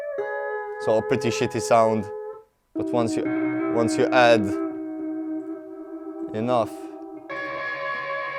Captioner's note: amps